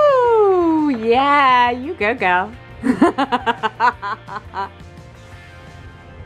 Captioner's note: laughs